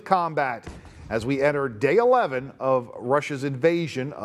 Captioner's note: missile blast